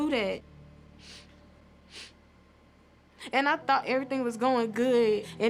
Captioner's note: sniffling